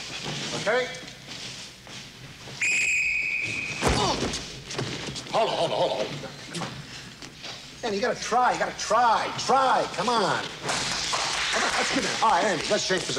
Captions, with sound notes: Okay? [whistling] [grunting] Hold it, hold it, hold it. Danny, you gotta try. You gotta try. Try, come on. All right, Andy, let's change positions.